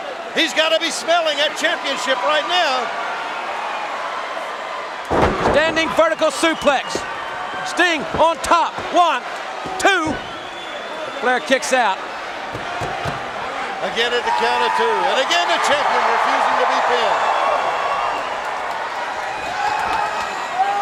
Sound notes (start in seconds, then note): 5.1 wrestlers thudding on ring; 14.5 Sting howling; 17.7 crowd cheering